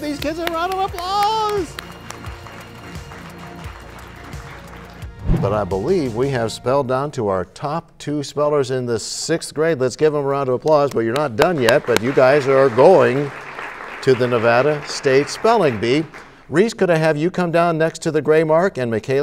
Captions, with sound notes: are awesome! Give these kids a round of applause! ( applause ) But I believe we have spelled down to our top two spellers in the 6th grade. Let's give them a round of applause. (applause) But you're not done yet, but you guys are going to the Nevada State Spelling Bee. Rhys, I'm gonna have you come down next to the